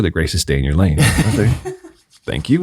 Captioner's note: all chuckling